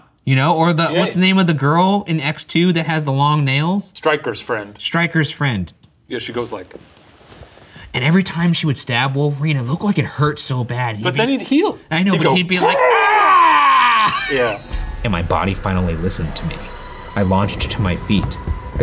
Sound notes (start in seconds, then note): 12.6 grunting; 13.3 yelling